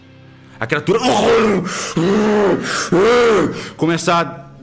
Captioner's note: roar